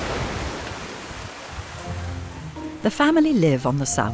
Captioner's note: waves crashing